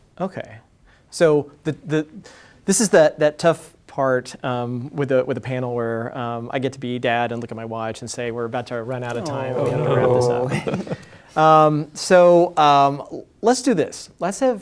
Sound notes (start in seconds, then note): 9.1 groaning